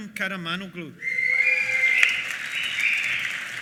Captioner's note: cheers and whistles; applause